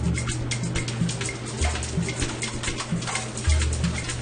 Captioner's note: egg sizzles